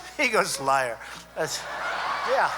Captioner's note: laughter